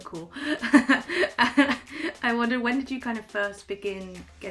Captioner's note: laughs